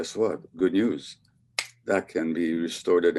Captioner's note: snaps fingers